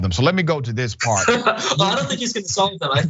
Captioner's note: laugh